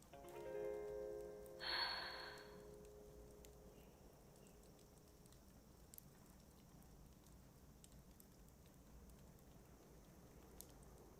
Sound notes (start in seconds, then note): 1.6 sighs